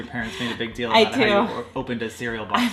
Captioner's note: laughing